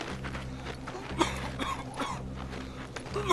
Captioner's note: steps crunching on snow; soldier coughing